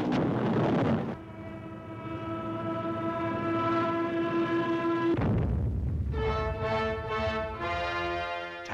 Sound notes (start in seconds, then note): 5.1 ka-boom